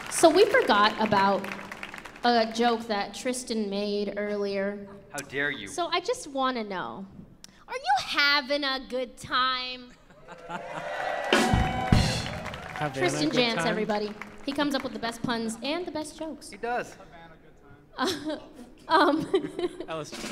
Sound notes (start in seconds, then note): 10.2 audience cheers and applauds; 18.3 laughs